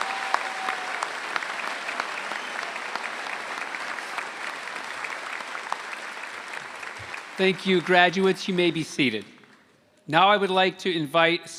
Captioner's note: applause